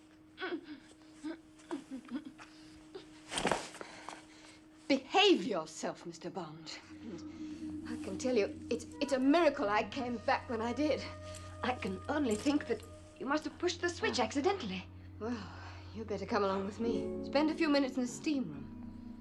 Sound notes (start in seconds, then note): 3.1 footsteps; 6.9 machine humming